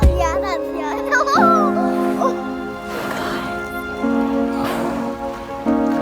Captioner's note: child giggling and speaking foreign language